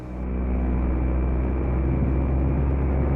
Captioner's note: engine hums